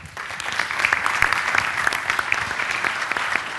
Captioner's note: applause